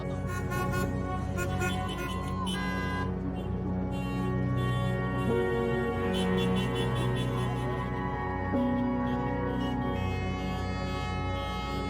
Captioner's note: car horns honking